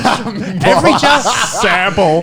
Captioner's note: laughing